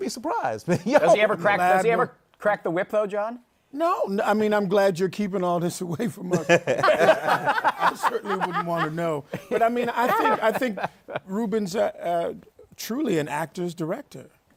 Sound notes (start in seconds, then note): 6.2 laughter